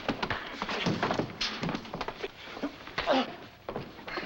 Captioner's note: grunting